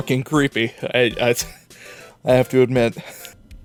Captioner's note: stammering